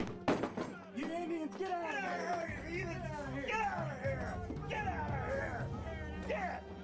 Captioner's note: shouting